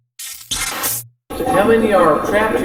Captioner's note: electronic effect